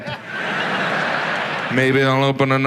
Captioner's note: audience laughs